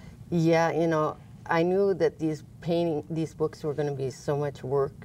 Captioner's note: none